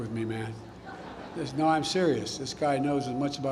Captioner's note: laughter